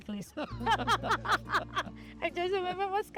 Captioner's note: both laugh